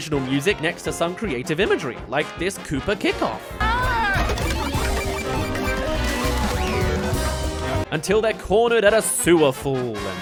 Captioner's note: bleep bloop!